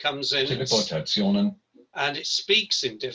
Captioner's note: non-english speech